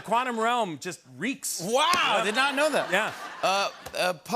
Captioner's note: laughter and applause